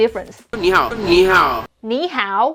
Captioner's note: speaking in Mandarin